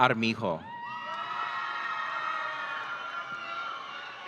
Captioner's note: audience cheering